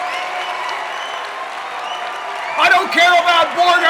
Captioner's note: cheers and applause